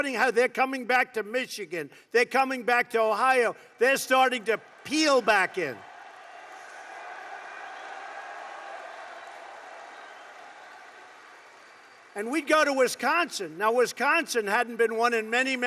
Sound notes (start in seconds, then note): 4.4 applause